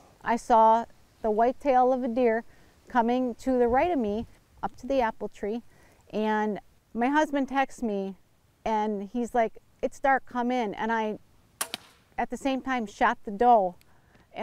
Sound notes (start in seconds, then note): 11.6 crossbow whizzing